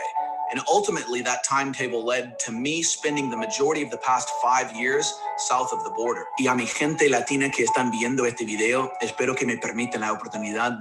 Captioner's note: speaking Spanish